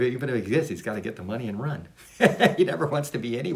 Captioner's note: laughs